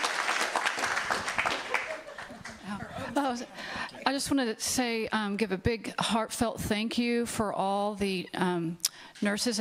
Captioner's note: applause